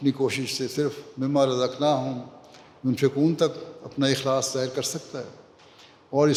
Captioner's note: Arabic